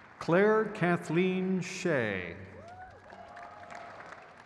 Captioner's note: crowd cheers